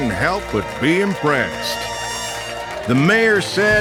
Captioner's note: crowd cheering